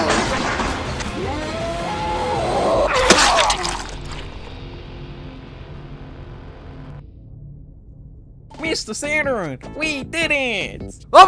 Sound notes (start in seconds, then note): 2.9 Squelching noises can be heard as Mr Friendly explodes into many tiny giblets